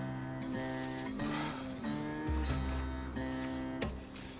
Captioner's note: light dramatic music; Heck sighing